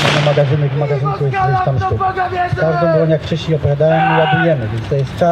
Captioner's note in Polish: Powstaniec krzyczy w walce